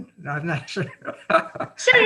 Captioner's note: chuckling